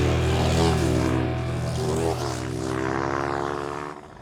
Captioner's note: car revving